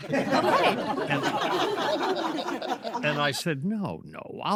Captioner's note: all laugh